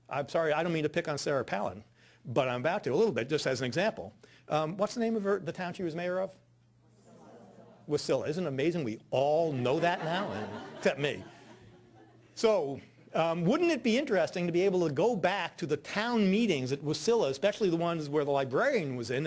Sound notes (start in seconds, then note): 7.0 audience murmurs; 9.7 audience laughing